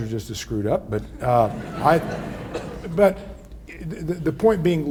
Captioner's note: audience laughs